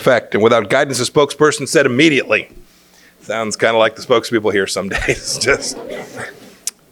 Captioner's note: laughter